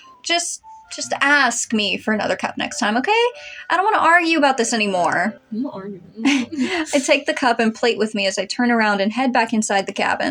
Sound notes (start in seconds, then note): 5.6 mumbling; 6.2 laugh